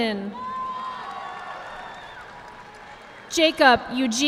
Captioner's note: audience clapping